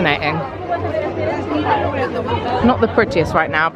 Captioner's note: crowd chattering